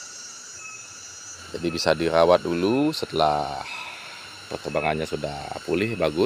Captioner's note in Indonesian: menghela napas